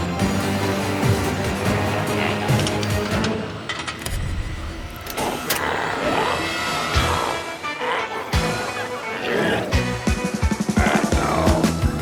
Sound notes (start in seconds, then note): 0.2 intense music continues; 5.0 glowzies growling; 6.1 energetic music